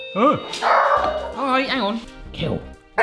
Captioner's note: doorbell ringing; dog barking